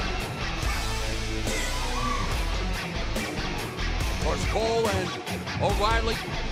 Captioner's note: fans chanting